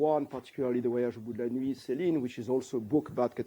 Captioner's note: non-english